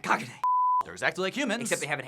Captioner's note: beep